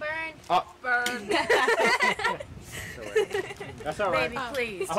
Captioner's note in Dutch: meisjes lachen